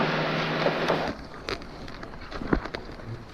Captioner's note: car engine running